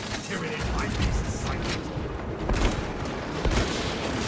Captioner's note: gunfire